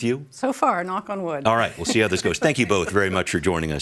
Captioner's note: laughs